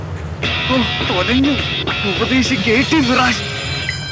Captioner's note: on phone